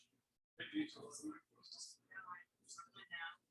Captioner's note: people chattering indistinctly